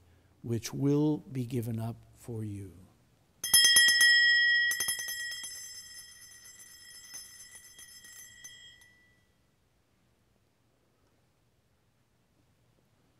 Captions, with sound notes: which will be given up for you. (bell ringing)